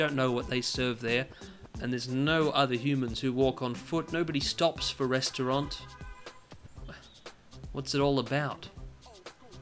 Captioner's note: brief sigh